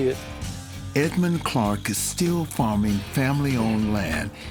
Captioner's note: voiceover